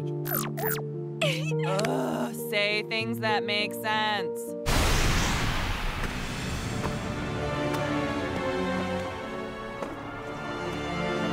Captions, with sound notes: [Emily beeps happily] - [Perfuma sobs happily] - Ugh, say things that make sense! [crash, footsteps, dramatic music]